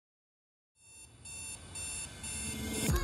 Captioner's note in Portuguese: despertador toca